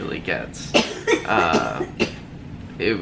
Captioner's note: coughing